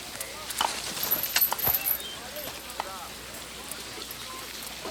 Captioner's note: chain clinks